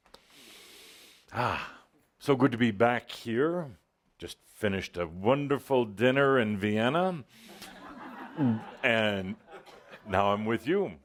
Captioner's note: laughter